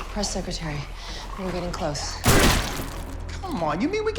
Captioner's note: gunshot